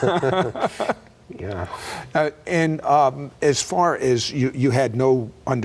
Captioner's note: laughing